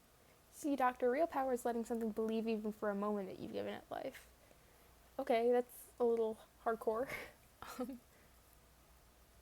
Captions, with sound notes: "See doctor, real power is letting something believe even for a moment that you've given it life." Ok that's a little...hardcore. (laughs) Um...